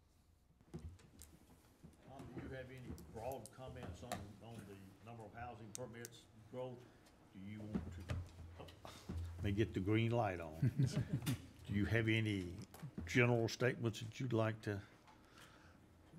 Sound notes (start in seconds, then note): 10.6 laughing